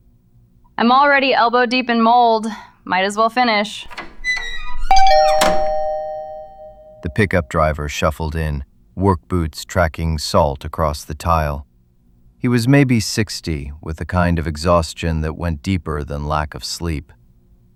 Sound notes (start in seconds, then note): 7.0 SFX: Door + Chime